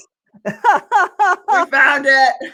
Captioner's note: laughs